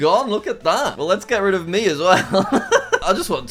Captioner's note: laughs